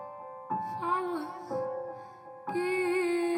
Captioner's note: none